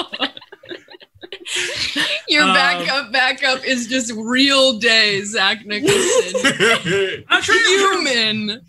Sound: laughs

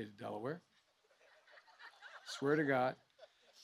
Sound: laughter

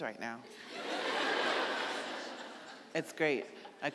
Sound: audience laughing

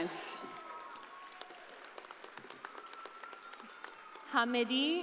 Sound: audience applauding

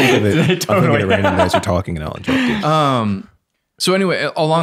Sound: innocent laughing

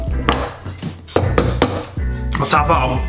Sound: banging table

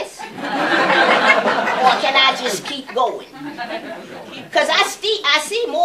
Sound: laughter

